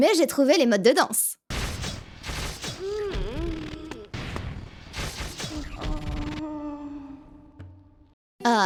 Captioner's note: female monsters moan when hit